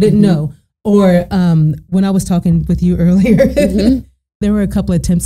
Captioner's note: laughing